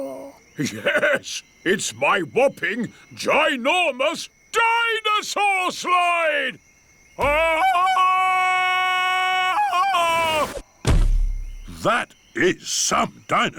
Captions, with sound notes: Yes! It's my whopping, ginormous dinosaur slide! (ULULATING) That is some dinosaur.